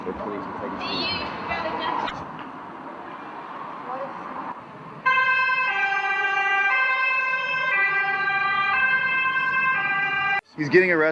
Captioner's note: Swedish street noises